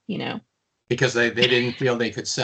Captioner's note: chuckling